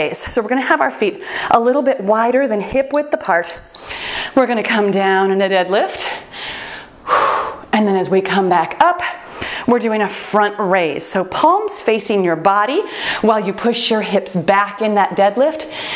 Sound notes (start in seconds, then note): 2.9 timer beeps